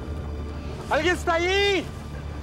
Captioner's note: speaking spanish